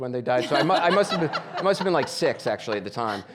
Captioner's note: audience laughing